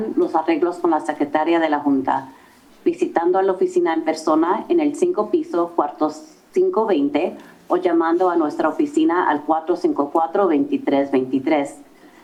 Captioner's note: foreign language